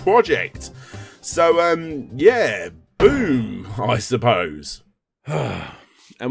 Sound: boom; sigh

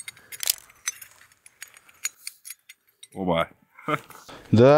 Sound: microphone 1: silence in background

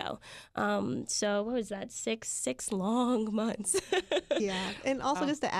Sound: laughs

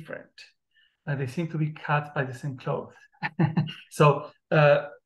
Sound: chuckles

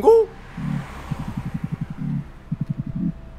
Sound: phone rings and vibrates; ringing and vibration stops

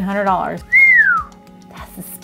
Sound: whistles

